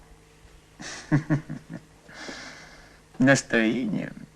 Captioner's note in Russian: смеётся